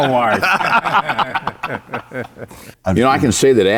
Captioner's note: panelists laughing